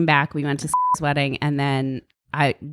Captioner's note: beep